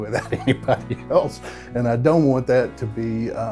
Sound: laughing

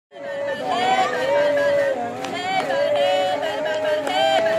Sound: enthusiastic crowd cheers

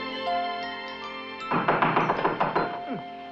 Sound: knocking on door

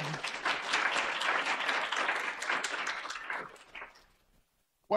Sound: audience applauds

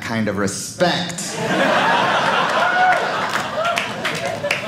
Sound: audience laughing

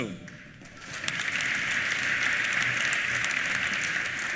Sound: applause

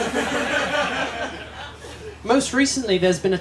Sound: laughter

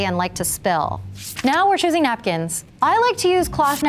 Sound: page flapping

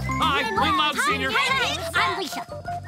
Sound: overlapping chatter

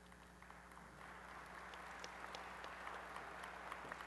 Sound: applause

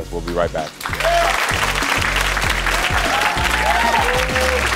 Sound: audience applauds

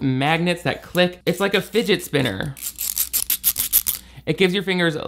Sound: Fum device clicking

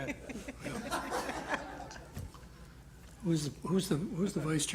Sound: laughter

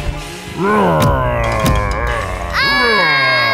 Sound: growling; screams

